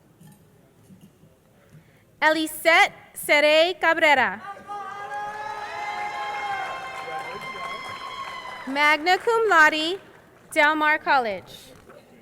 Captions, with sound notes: Elisette Serae Cabrera, (crowd cheering) magna cum laude, Delmar College.